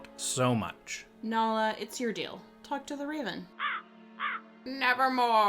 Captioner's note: squawking